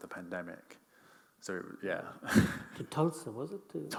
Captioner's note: chuckles